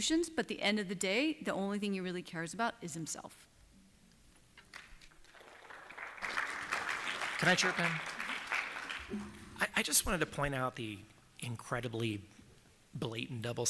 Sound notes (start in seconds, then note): 4.6 applause